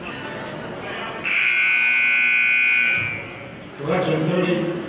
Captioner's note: buzzer honks